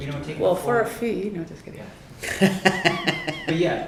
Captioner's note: laughter